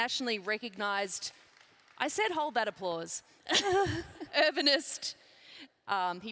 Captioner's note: laughs